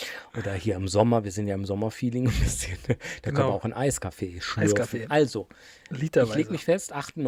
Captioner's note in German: gelächter